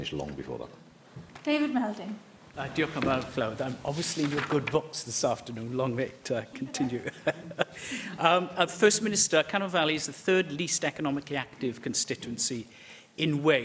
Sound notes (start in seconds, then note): 6.5 laughter